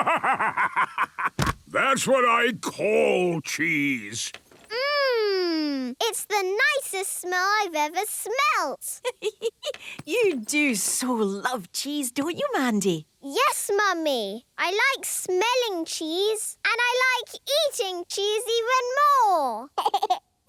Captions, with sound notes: (bursting laughter) That's what I call cheese! - Mmmm! It's the nicest smell I've ever smelt! - (giggling) You do so love cheese, don't you, Mandy? - Yes, Mummy! I like smelling cheese. And I like eating cheese even more!